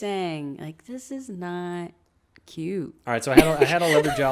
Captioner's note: laughs